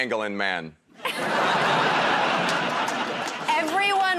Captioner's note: laughter